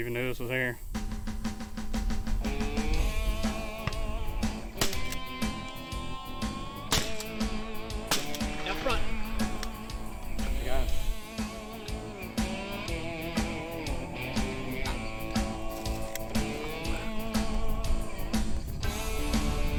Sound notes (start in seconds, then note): 0.3 soft country music; 6.8 gun fire; 9.1 soft country music; 10.0 faintly speaking; 11.6 soft country music